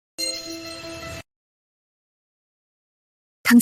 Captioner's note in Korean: 종소리